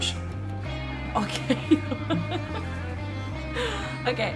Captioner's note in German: lacht